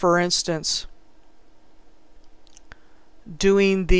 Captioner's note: clicking on different browser tab